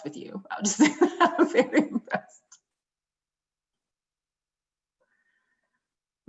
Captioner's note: laughter